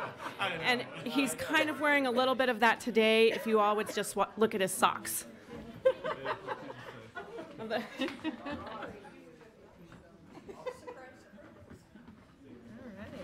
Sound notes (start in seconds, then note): 0.2 laughing; 6.3 laughing; 8.8 low chatter